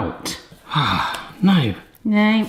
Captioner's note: sighs